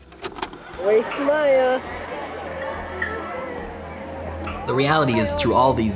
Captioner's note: cassette whirring